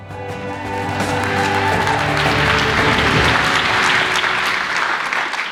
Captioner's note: applause